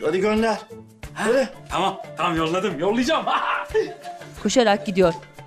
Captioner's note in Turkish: Gülme sesi